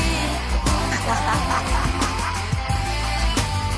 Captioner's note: laughing